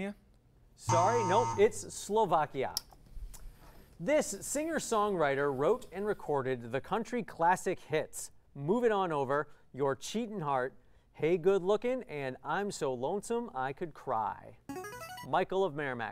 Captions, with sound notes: [error buzzer] Sorry, no, it's Slovakia. This singer-songwriter wrote and recorded the country classic hits Move It On Over, Your Cheatin' Heart, Hey Good Looking, and I'm So Lonesome I Could Cry. [player buzzer] Michael of Merrimack.